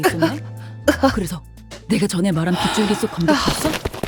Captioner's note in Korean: 웃음